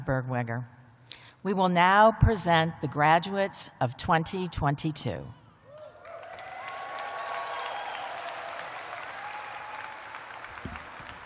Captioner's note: cheers and applause